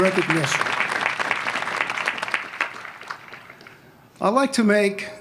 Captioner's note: applause